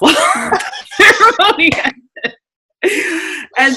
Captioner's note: laughing